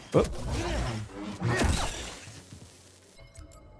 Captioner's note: gunshots